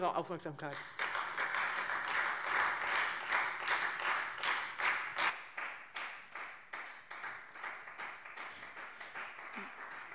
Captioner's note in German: Beifall